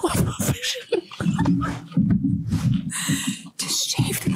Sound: all laughing

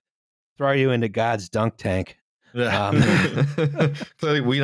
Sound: laughter

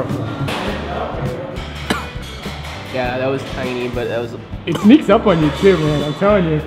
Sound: cough

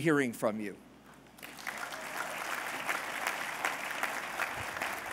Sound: applause

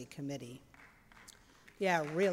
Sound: applause

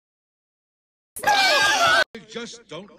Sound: Ariel screams and runs back home

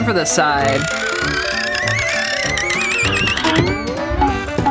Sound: whistling

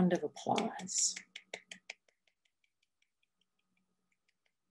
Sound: clapping

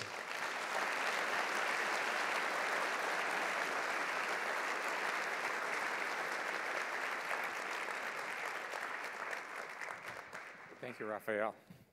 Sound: applause

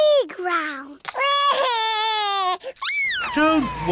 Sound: crying

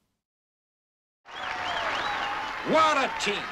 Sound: audience applauding; audience cheering

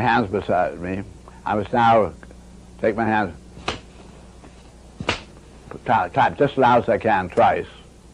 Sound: and Bucky makes two loud claps

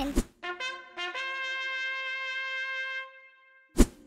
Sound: horn sounds

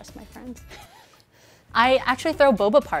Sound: chuckles

